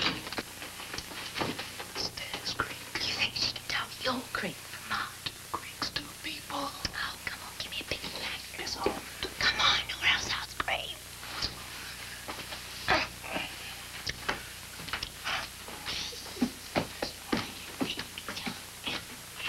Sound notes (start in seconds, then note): 1.9 john, whispering; 2.9 jill, whispering; 9.3 jill, whispering